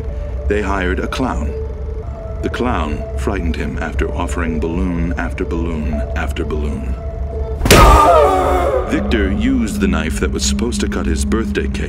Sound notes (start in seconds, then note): 7.6 popping; 7.7 screaming